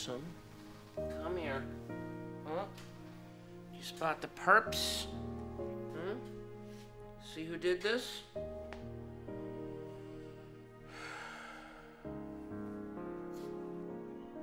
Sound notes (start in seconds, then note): 10.8 sighs